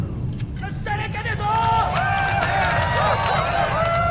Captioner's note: applause